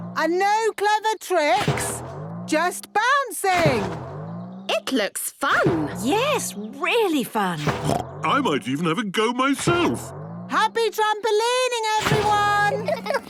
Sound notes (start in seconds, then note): 7.6 snorts